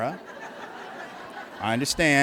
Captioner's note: laughter